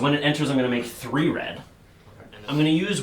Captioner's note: none